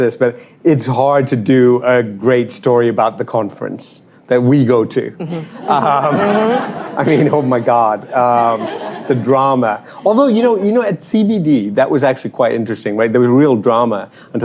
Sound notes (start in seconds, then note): 5.2 laughter